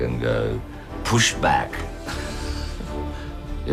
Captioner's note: chuckles